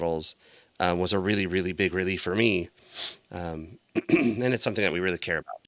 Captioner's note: clears throat